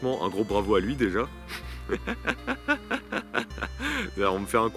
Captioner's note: laughs